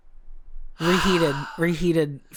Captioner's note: sighs